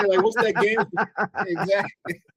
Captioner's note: laughing